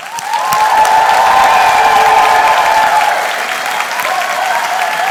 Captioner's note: loud applause and cheering